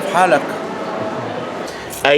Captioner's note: in Arabic